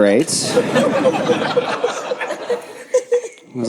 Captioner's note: audience laughs